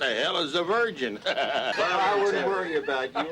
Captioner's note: men laughing